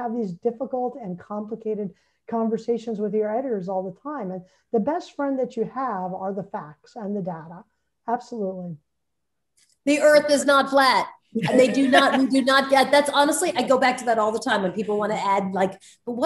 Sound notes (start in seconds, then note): 11.4 all laughing